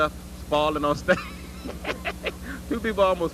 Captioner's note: laugh